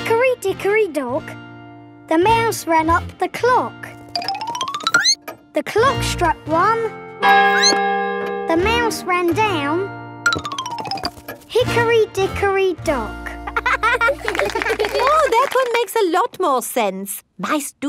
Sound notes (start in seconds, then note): 7.2 clock chimes; 7.5 squeaks; 13.5 laughing